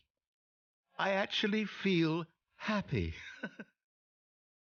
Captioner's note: laughing